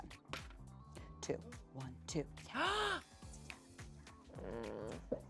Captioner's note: gasps